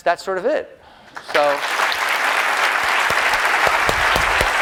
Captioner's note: applause